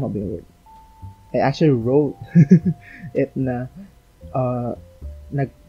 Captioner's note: laughs